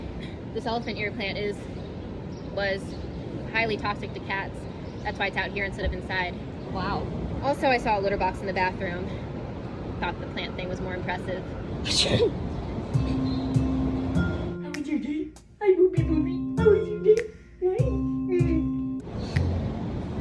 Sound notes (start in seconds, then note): 11.8 sneezes; 14.9 cat baby talk